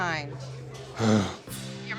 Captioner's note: sigh